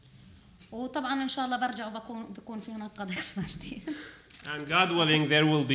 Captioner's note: speaking arabic